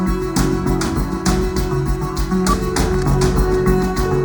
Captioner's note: dialing phone